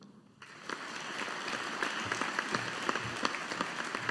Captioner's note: audience applauding